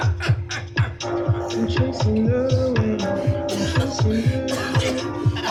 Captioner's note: laughter